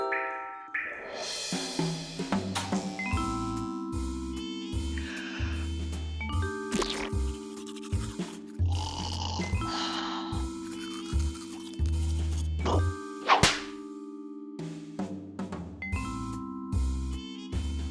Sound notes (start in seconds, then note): 4.6 yawns; 6.6 toothpaste squirts; 9.0 snores